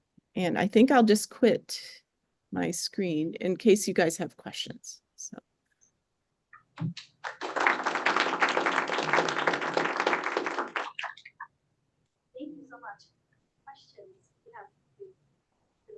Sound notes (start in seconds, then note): 7.0 applause